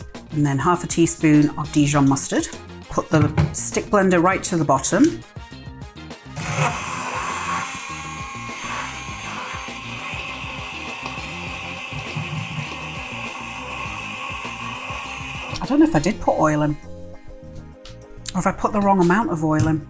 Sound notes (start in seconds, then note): 5.0 blender whirring